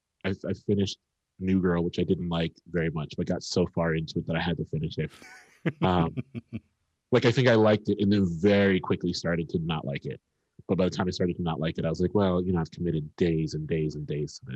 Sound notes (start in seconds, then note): 5.0 laughs